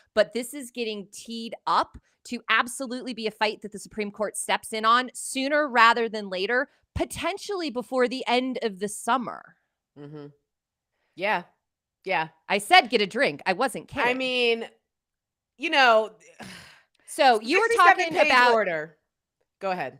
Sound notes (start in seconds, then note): 16.4 sighs